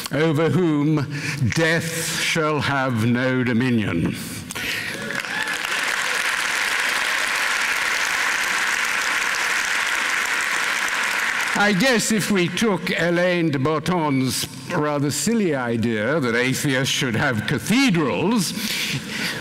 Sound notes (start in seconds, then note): 4.9 applause, cheering